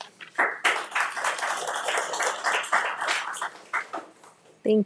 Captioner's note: audience applauds